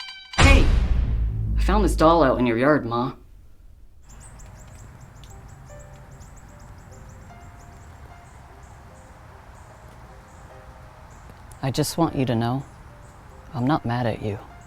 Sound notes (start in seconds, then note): 3.5 insects chirping; 4.0 gentle music